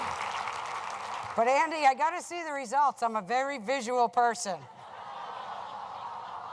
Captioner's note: laughter